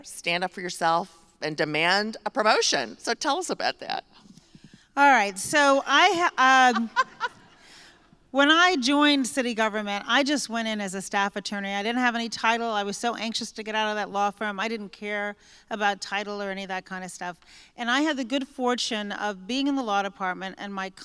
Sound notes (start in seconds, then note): 6.5 laughter